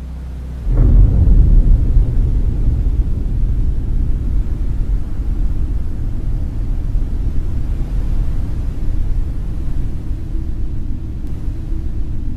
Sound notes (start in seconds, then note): 0.2 a thundering boom; 2.5 whoosing sound continues and slowly fades out